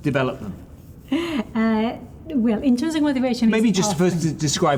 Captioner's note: chuckles